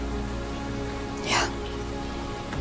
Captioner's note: whispering